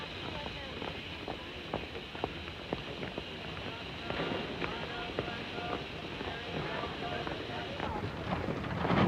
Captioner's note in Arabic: هسهسة بخار